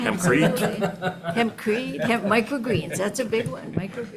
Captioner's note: people laughing